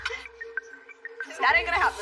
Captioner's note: laughs